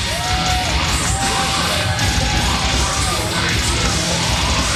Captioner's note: loud cheers